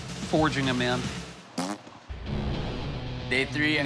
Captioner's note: blows raspberry